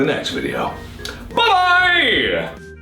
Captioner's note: mouth Click